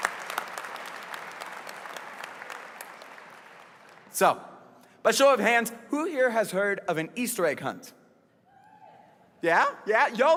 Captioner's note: applause